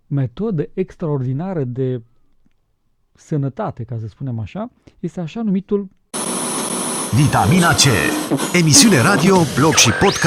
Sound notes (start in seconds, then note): none